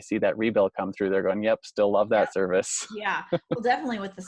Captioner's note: laughs